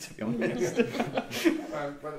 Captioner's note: chuckles